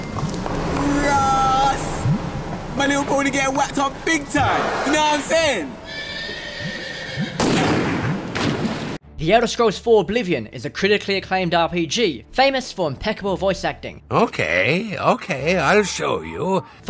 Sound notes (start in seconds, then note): 5.6 neighing; 5.7 gunshot